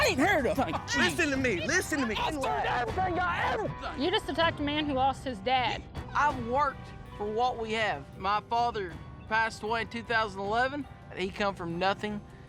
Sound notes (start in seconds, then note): 0.1 swearing; 3.0 angrily shouting